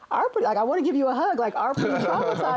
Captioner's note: laughs